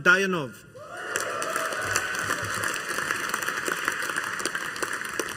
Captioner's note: audience applauding